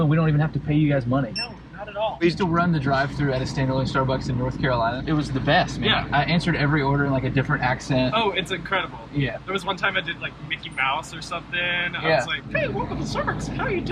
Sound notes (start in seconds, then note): 1.3 scanner beeping